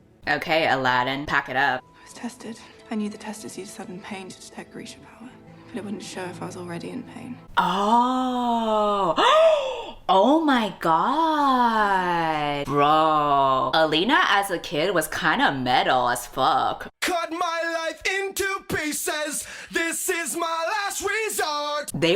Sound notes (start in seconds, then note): 9.1 gasps